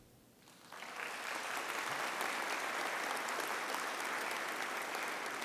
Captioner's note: audience applauding